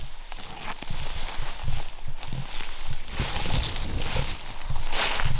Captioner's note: brush rustling